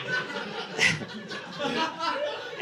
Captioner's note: audience laughing